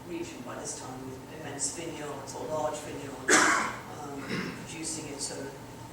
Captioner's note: audience member coughs